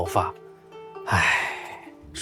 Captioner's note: sigh